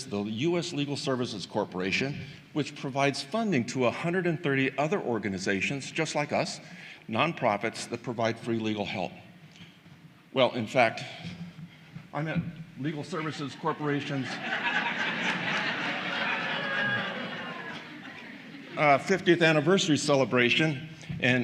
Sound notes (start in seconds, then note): 18.9 laughter